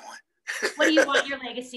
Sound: laughing

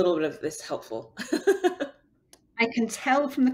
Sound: laughs

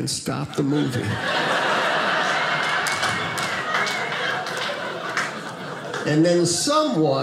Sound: audience laughing

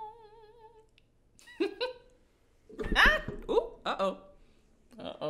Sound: laughing

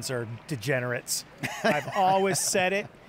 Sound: laugh

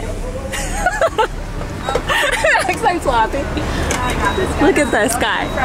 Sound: laughing

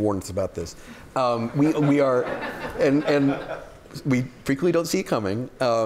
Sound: laughter

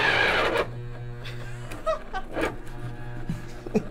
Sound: ice cream maker whirring; motor jamming

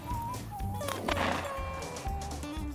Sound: shot goes off; upbeat country music

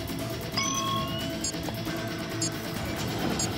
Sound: arming / countdown beeps

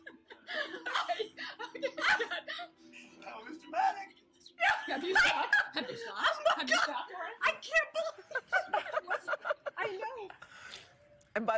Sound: laughter

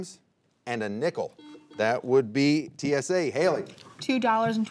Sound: buzzer beeping

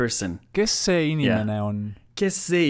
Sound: listens to the answer in Estonian; repeats the sentence in Estonian

